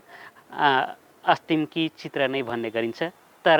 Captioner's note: in Tharu language